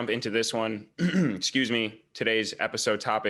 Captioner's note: clears throat